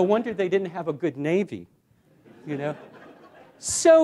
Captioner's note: laughter